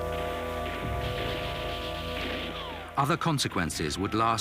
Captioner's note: gunshots cracking